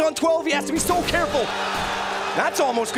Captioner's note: applause